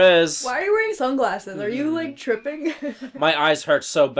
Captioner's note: chuckles